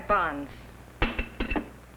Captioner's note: knife thuds